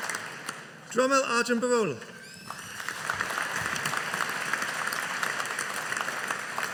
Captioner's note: audience applauding